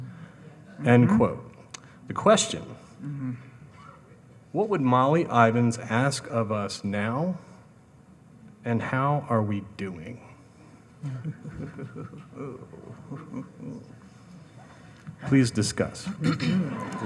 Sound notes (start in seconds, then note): 11.0 laughing